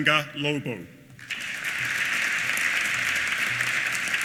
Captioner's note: applause